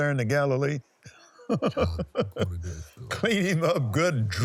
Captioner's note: laughs